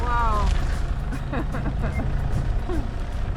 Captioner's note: laughing